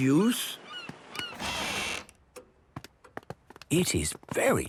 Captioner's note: door squeaking; quiet room